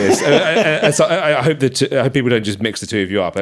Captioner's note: laughing